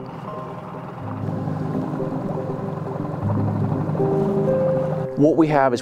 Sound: boat spluttering; dramatic music

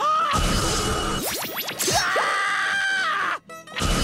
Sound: screaming

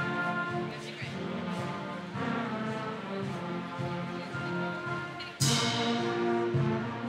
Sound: audience members chattering

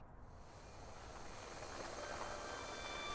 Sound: whirring

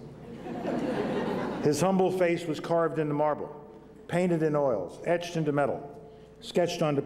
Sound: laughter

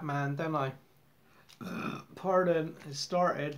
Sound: burp

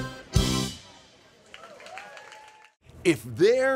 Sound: crowd cheering

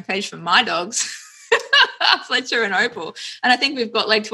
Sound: laughs

